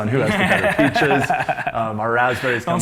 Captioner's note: laughs